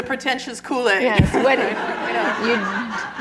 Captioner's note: laughter